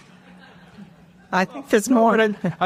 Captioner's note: audience laughter